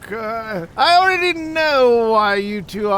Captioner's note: chuckles